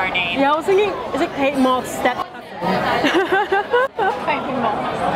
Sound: laughs

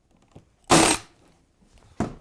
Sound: staple gun

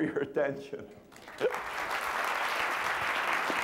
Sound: applause

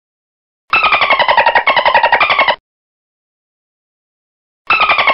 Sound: dolphin squeaking

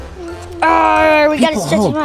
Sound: child grunts

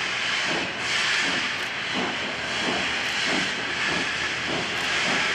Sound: steam engine chugging

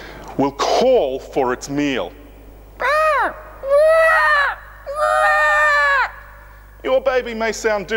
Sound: pterodactyl screeching

